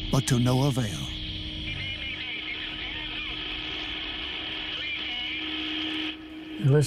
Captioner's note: man on radio